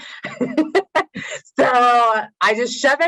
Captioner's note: laughs